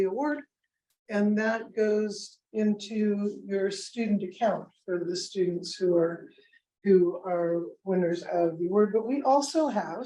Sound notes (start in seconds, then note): none